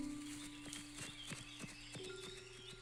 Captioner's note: birds a-chirpin, grass foots-a-steppin